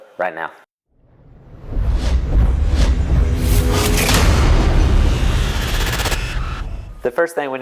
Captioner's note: sound effect